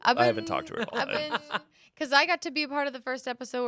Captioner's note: laughs